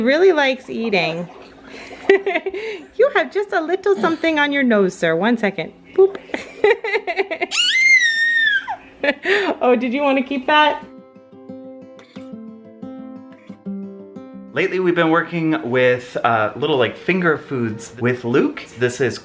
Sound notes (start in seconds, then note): 7.0 baby laughing; 11.2 gentle jingle